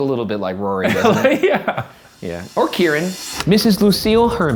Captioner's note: laughs